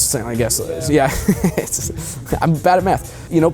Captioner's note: chuckles